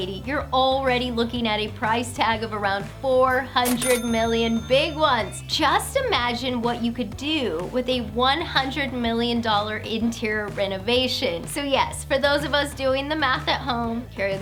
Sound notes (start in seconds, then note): 3.4 cha-chinging